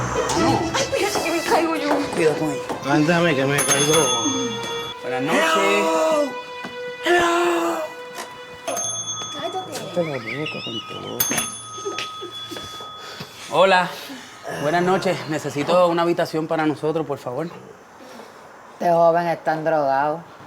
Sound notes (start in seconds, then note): 2.3 bell rings; 8.6 bell rings; 10.1 Billy laughs